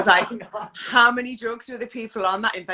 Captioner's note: laughs